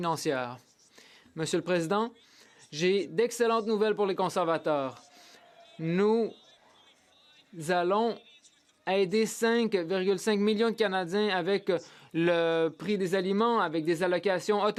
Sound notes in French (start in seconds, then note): 2.9 voix de l'interprète